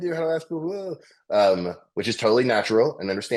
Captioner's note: faintly speaking